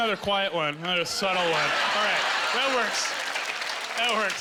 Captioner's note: cheering